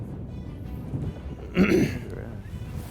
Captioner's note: clears throat